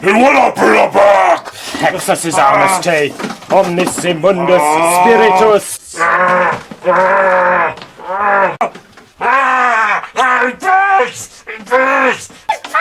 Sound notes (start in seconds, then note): 1.9 man speaking foreign language; 4.4 monster yells